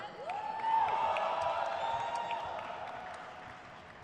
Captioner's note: crowd cheers